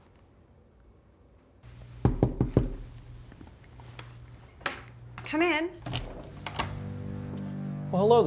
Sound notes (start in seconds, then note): 2.0 door knocking; 6.7 ominous music